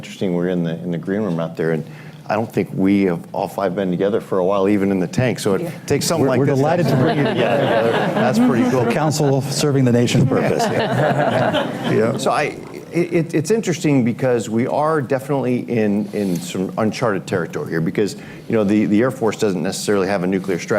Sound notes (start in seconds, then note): 6.6 laughter